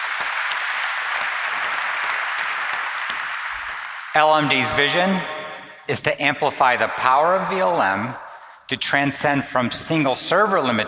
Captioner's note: applause